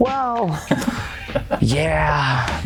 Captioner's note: laughing